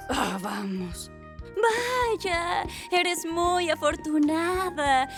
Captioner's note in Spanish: Sarcásticamente